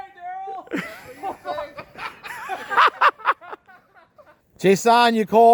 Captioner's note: group laughing